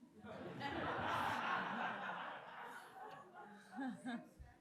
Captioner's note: audience laughing